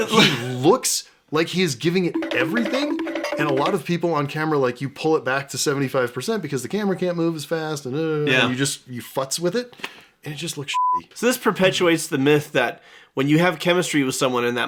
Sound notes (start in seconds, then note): 10.7 beepy